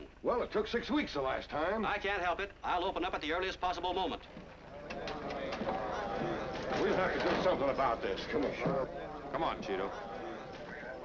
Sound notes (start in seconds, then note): 4.2 crowd chattering